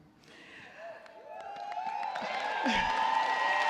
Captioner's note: cheers and applause